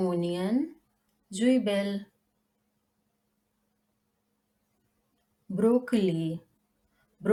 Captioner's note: in German: Zwiebel